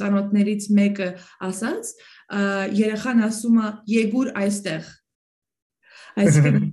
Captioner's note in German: auf Westarmenisch